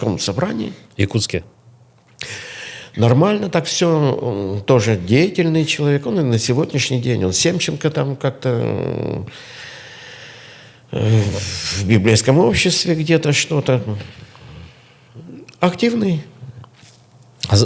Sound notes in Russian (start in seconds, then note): 10.9 вздыхает; 14.0 фыркает